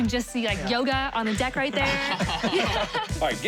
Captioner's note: laughter